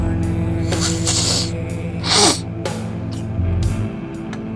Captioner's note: Addison snorting